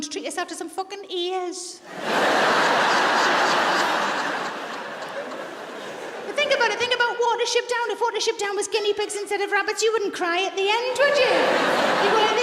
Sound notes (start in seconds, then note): 1.8 audience laughs